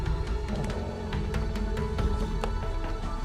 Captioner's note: the dog growls